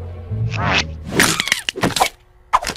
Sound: cracking

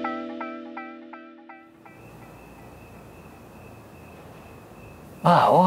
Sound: crickets chirping

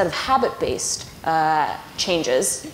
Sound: none

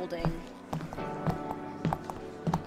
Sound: footsteps

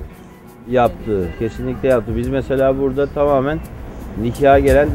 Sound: speaking Turkish

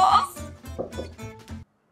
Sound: suspicious knocking

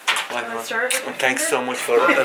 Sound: mum speaking faintly

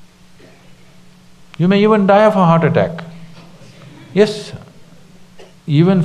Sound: few laugh

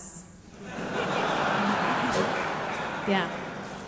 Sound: audience laughing

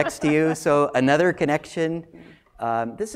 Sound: laugh

